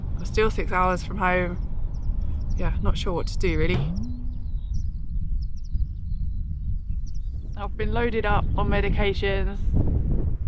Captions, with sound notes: I'm still 6 hours from home yeah not sure what to do really *boing* I've been loaded up on medications